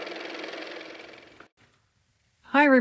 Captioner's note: car motor